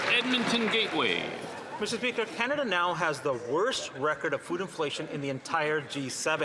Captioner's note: some Applause